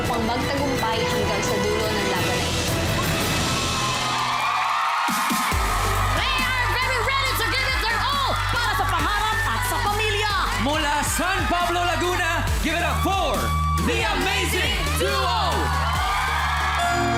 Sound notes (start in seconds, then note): 3.2 audience cheering, clapping; 5.3 upbeat music playing; 15.8 whooping, applause